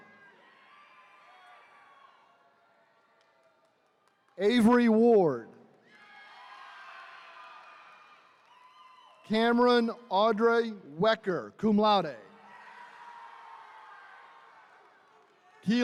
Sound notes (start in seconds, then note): 0.0 attendees cheering; 5.8 attendees cheering; 12.3 attendees cheering